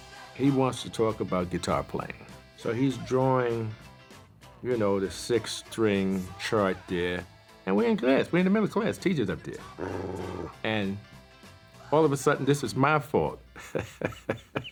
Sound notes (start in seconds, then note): 9.5 growls; 13.5 laughs